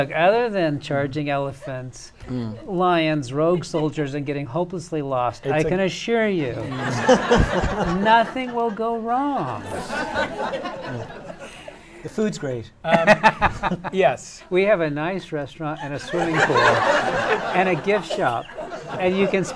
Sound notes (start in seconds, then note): 6.6 laughter